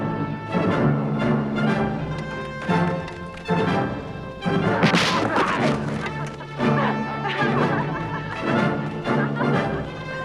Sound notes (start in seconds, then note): 4.8 armor clatters; 7.5 both laughing